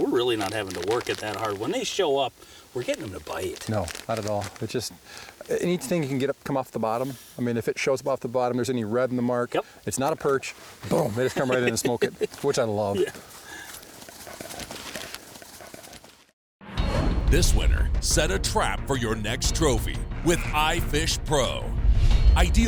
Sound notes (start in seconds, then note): 12.5 laughs; 17.7 voiceover